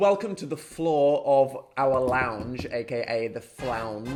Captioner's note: palms thumping